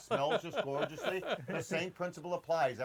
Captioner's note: laughs